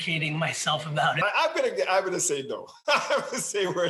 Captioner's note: laughing